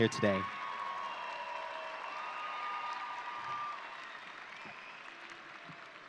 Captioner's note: audience cheering and applauding